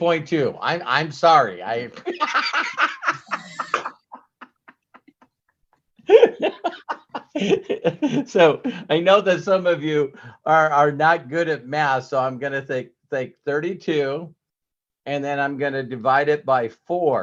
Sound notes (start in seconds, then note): 1.9 laugh